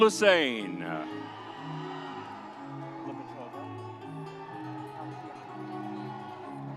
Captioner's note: audience cheers; soft music continues